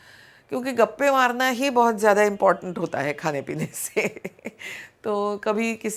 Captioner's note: chuckles